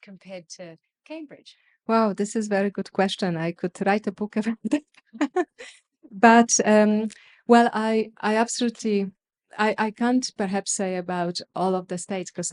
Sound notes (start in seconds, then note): 5.1 laughs